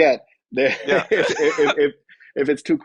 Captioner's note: both laugh